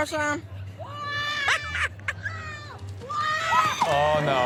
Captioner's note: kid screaming